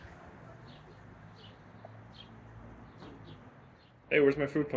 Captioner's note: birds chirping